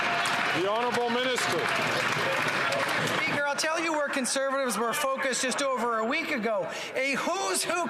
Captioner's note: some Applause